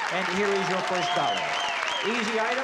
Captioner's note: applause